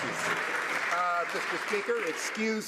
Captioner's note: some Applause